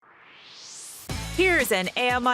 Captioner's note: swoosh